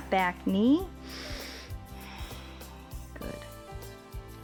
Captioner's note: inhales and exhales